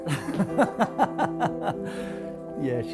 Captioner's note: laughter